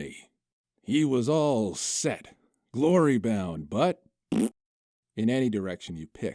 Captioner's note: raspberry noise